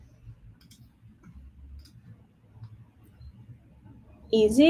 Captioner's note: mouse clicking